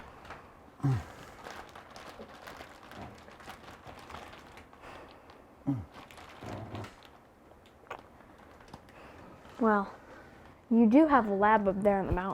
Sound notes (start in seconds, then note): 0.8 Mercer grunts; 1.3 paper rustling